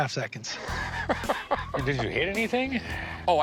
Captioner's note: laughs